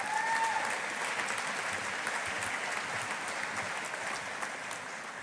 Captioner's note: audience applauding